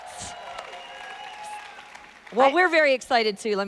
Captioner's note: audience applauding continues